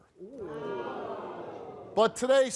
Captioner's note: crowd